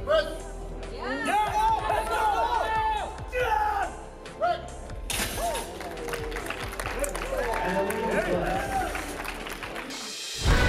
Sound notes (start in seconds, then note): 1.5 crowd cheers